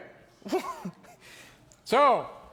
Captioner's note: Tin Man laughs in amazement